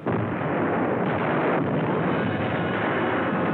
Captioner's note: explosions